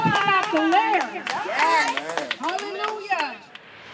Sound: group clapping

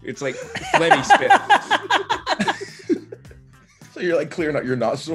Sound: laugh

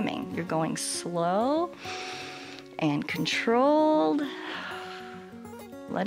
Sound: exhales

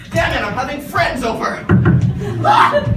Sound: knock knock

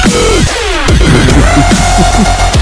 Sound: Sounds of Yazoo chuckling

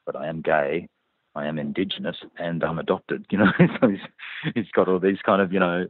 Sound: laughs

